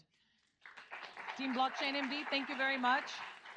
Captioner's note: audience applauds